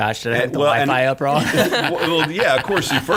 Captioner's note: laughing